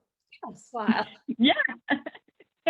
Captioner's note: laughing